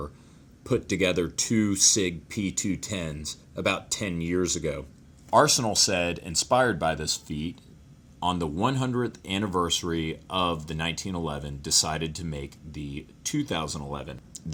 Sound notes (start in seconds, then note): none